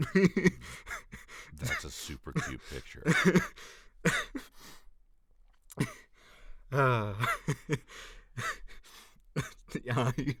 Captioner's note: uncontrollable Laughter; more Uncontrollable Laughter